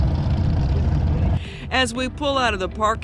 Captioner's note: motorcycle engine roaring